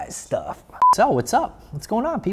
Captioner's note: beeps